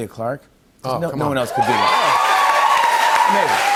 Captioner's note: cheers and applause